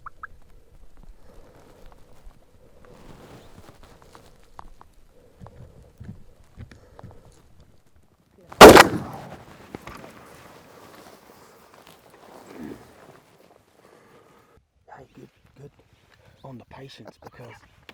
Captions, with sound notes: (loud thumping) (loud shot fired) - Hey, good... good on the patience because,